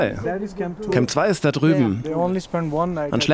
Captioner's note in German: englisch